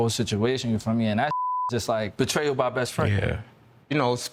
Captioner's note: beep